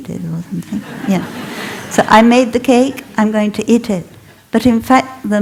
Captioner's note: laughter